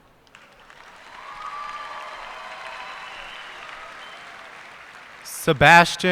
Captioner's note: cheers and applause